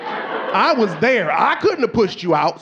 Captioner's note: audience laughing